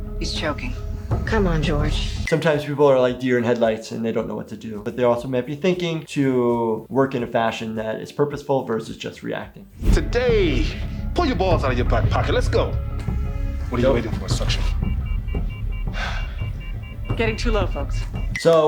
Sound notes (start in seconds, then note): 13.7 monitor rapidly beeping; 15.8 head surgeon sighs